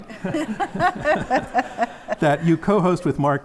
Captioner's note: audience laughs